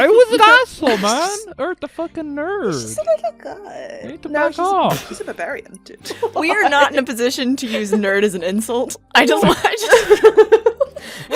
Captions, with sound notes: Guy was an asshole, man! Urd the fucking nerd. He's just a little guy! He needed to back off! No he's a, he's a barbarian, dude. (Laughing) We are not in a position to use "nerd" as an insult! I just want, I just feel— [Laughter]